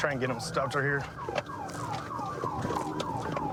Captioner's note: sirens blaring